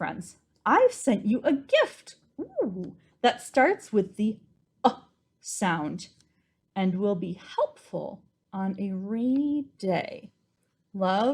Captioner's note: ooo!